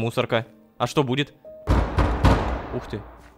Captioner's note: banging on the wall